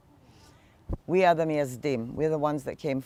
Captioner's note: hebrew